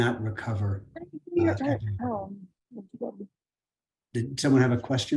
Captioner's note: guest murmuring